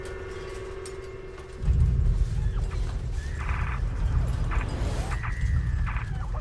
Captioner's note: dramatic music; electronic whirring